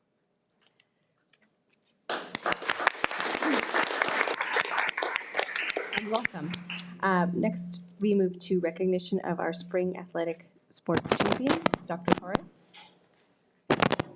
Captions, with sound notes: (Participants applauding) You're welcome. Next, we move to recognition of our Spring Athletic Sports champions, Dr. Torres.